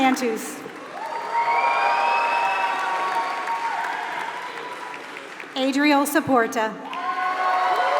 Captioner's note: applause